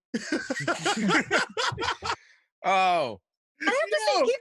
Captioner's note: laughs